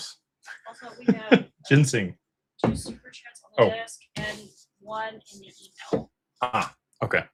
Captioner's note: laughter